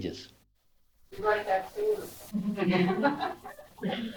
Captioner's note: laughter